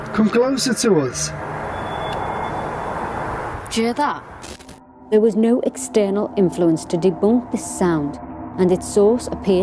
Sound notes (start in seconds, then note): 1.6 Screech